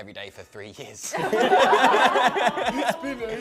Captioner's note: laughter